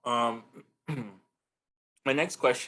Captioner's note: clears throat